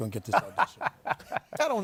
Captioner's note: laughter